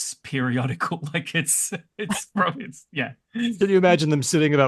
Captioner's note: chuckles